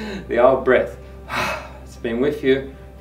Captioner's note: laughs; exhales sharply